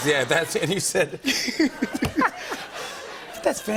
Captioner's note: laughter